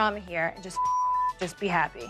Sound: beep

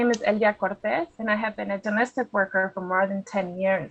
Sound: speakings spanish

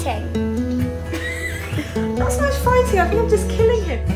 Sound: laughs

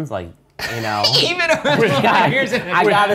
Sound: laughs

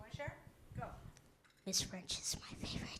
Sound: whispering into microphone

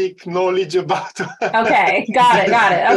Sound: laughter

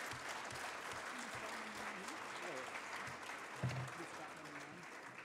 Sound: audience cheering

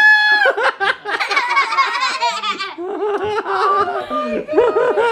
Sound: laughing

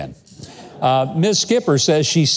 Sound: audience laughs

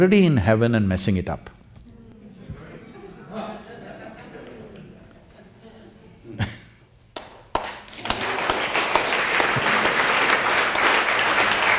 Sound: applause

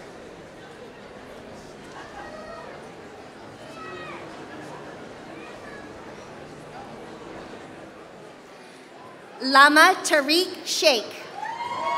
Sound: applause

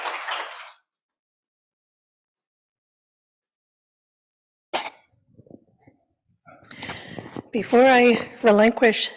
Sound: applause

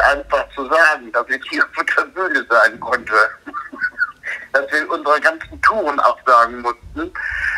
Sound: laughs

